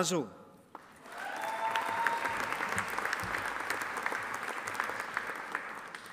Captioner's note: audience applauding